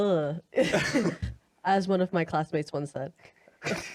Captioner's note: laughs